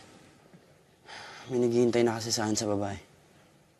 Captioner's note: sighs